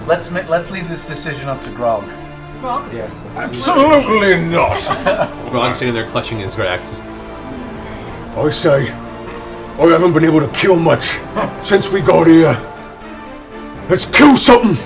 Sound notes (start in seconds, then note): 4.6 laughter